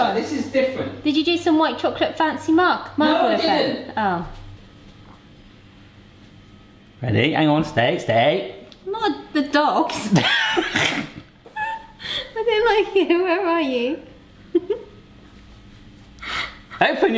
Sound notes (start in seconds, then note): 10.0 laughing; 14.5 chuckling